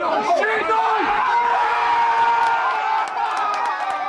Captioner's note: crowd roars